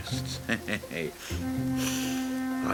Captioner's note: sniffing